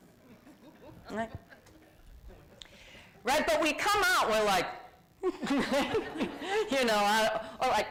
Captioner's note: laughs